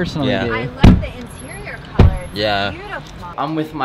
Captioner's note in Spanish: cierra la puerta del auto